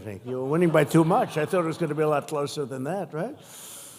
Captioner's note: laughter